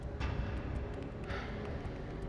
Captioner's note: sigh